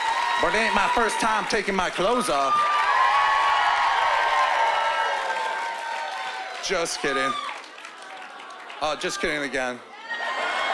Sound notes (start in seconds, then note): 3.2 cheering and applause